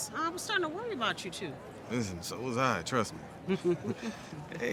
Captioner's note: chuckles